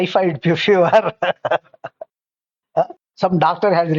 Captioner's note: laughs